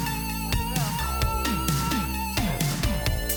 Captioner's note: beep